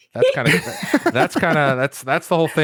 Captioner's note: laughter